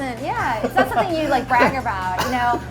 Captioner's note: laughs